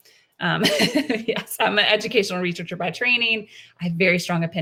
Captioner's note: laughs